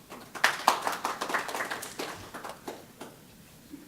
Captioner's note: applause